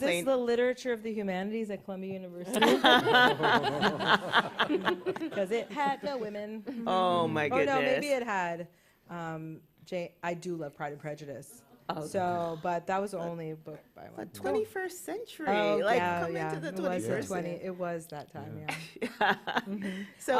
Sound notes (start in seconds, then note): 2.5 laughter